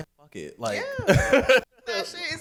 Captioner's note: laughs